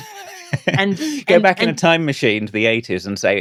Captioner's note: laughing